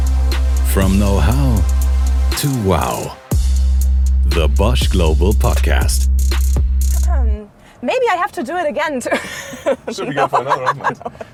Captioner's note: laughs